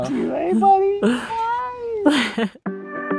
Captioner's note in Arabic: يضحك